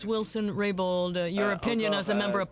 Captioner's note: speaking French